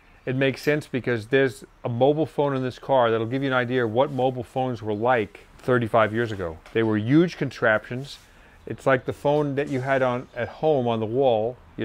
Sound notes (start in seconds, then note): none